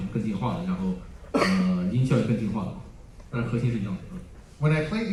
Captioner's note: coughs